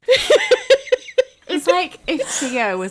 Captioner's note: laughing